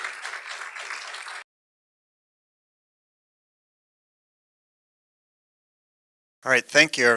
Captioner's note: applause; silence